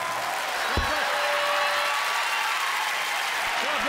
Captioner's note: cheering